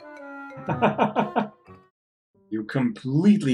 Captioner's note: laughs